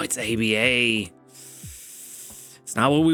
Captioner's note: inhales deeply